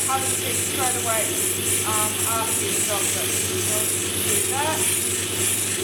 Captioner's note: machine whirring